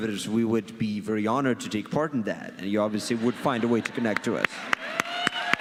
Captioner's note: audience cheers and claps